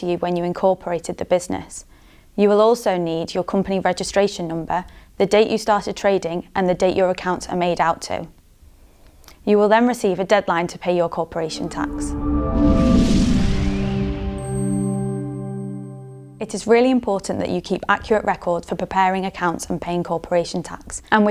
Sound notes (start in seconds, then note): 11.3 melodic sting; 12.0 bell dinging